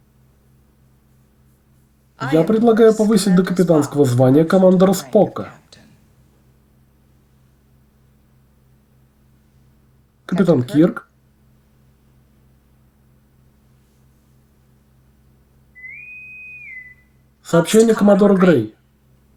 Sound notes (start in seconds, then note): 15.7 intercom whistles